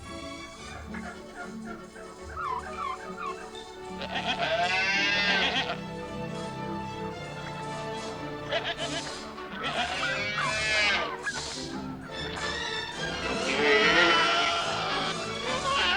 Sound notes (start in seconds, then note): 3.5 animal sounds